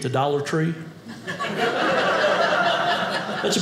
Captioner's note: audience laughing